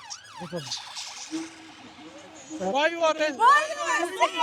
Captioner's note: sirens Wailing